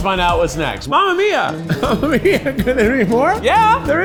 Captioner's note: laughs